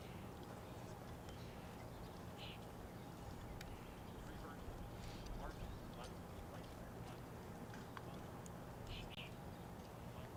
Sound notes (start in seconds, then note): none